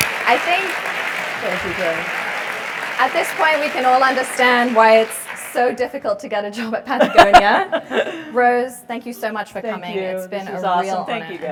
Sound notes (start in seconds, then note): 0.0 applause; 7.0 laugh